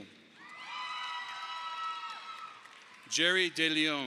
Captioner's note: audience applauding